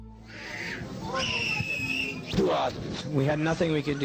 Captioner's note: hysterically screaming child